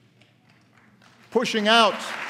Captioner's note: applause